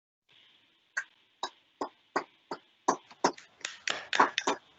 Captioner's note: people applauding